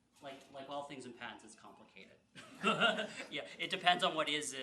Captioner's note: laughs